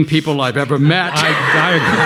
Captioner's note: audience laughing